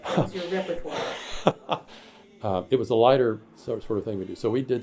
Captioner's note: laughs